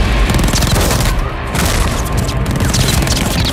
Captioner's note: none